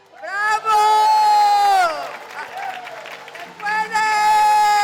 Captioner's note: applause, cheering